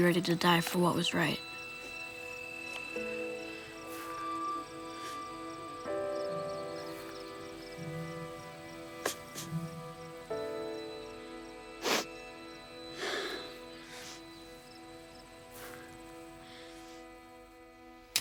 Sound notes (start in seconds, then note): 8.8 sniffling